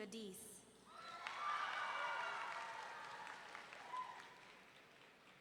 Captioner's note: audience cheering